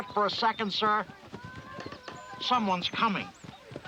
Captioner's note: yelling